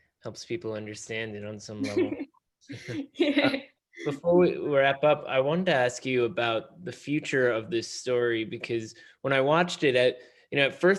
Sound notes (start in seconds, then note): 1.8 chuckles